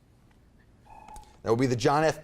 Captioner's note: timer buzzes